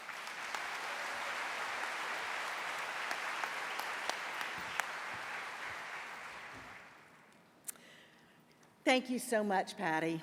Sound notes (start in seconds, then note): 3.4 applause